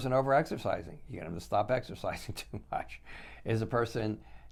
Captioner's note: chuckles